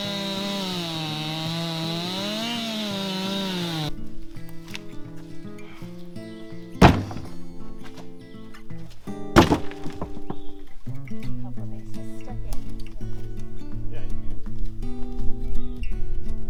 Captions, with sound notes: (motor rumbling) (wood thudding) - Hopefully she's stuck in.